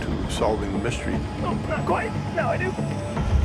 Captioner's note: struggling, grunting